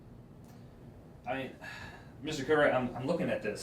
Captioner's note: suspirando